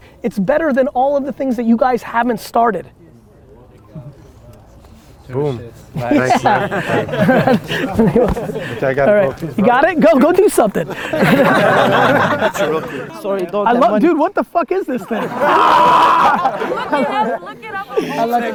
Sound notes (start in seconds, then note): 10.6 group laughter; 14.9 group laughter